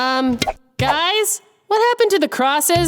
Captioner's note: none